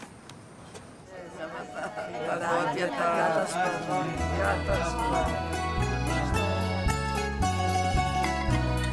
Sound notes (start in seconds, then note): 1.2 speaking in Greek